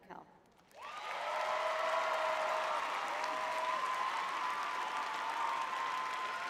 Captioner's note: audience cheering